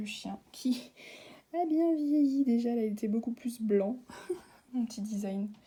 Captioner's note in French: rire